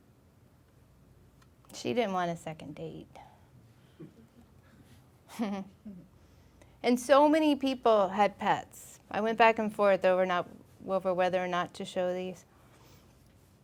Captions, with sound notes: She didn't want a second date. (laughing) And so many people had pets. I went back and forth over whether or not to show these.